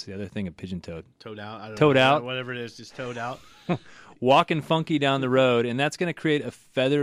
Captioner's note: laughs